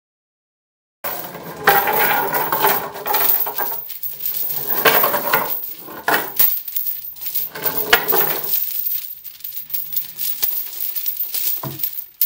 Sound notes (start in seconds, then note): 1.1 rattling chain